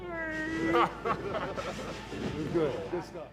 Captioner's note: wrestlers laughing